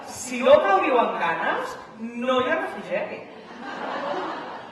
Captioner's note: laughter